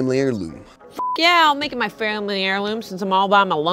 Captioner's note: beep